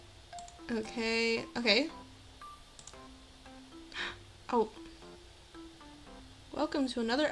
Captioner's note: gasp